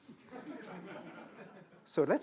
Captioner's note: laughing